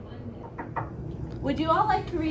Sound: knocking

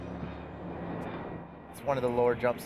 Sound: voiceover

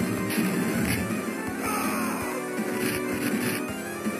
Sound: character scream

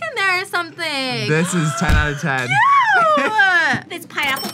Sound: gasps

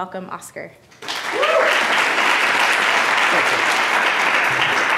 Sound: audience applauding

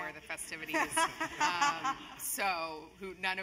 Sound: laugh

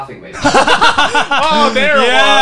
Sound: laughing

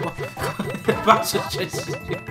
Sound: laugh

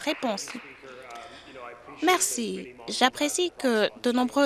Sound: applause

